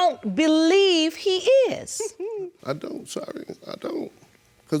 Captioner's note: giggles